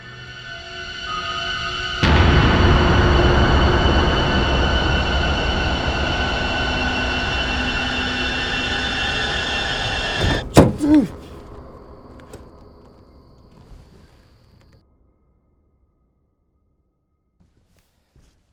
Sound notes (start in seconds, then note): 0.1 suspenseful music; 9.8 door rattling; 10.2 gasping